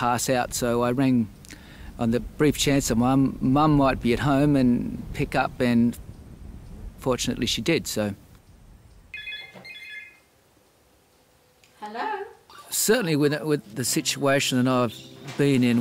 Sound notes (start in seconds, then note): 9.1 phone Rings